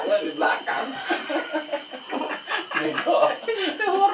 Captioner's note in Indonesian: ketawa monyet